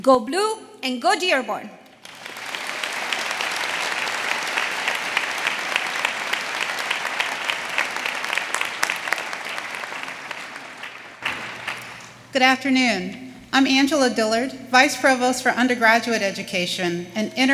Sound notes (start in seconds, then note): 2.2 audience applauding